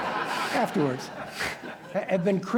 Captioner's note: laughter